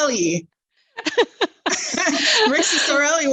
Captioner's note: laughs